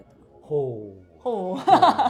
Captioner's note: laugh